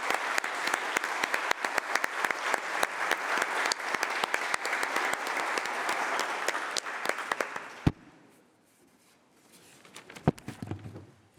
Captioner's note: applause